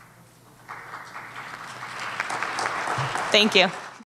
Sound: audience applauding

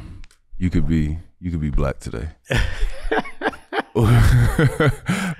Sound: chuckling

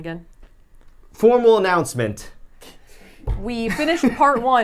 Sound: hand thuds

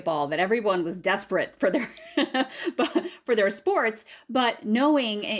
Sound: laughter

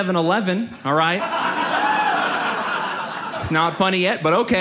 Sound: audience laughs

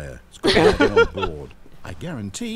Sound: laughs

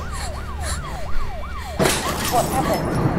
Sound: window smash

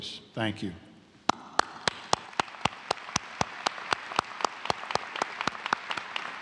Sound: applause

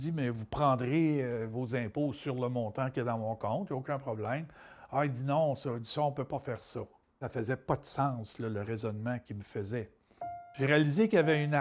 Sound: speaking alternate language

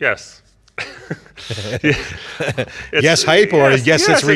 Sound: laughing

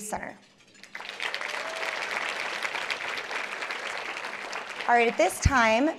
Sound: applause

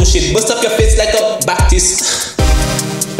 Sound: gasp

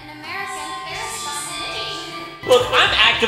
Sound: her voice fades into the background

